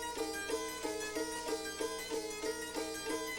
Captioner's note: none